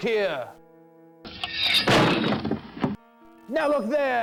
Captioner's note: blade slices